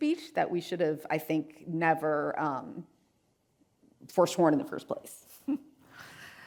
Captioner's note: chuckles